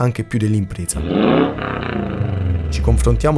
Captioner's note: boxer rumble